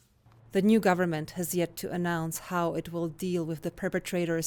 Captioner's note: voice-over